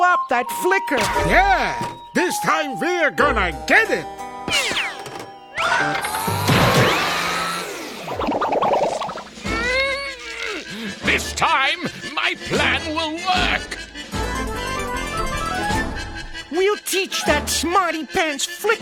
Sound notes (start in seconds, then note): 9.4 grunting